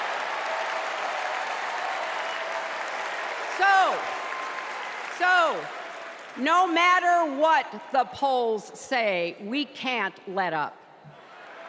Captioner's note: cheers and applause